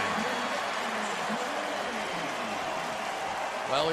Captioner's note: cheering